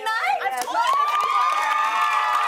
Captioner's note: cheers and applause